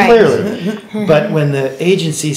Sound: laughing

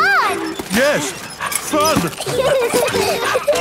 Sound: straining; peppa and george laughing

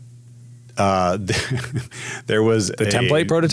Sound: laughs

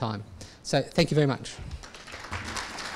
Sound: audience applause

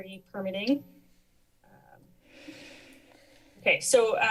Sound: pause

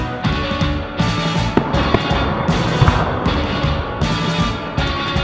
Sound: dramatic music; fireworks popping

